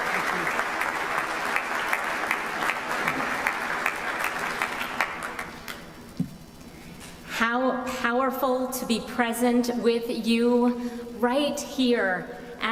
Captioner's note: applause